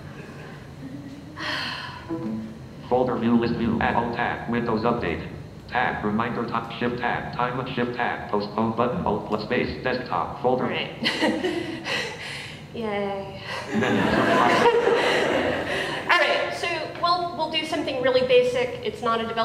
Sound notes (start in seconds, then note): 0.2 laughing; 1.9 sighs; 11.6 laughing; 13.7 louder laughing